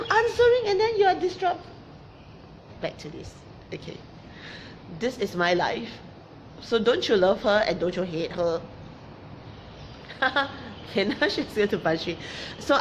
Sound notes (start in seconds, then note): 10.0 laughs